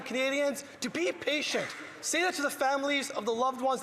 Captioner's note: some Applause